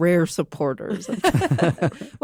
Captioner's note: laughter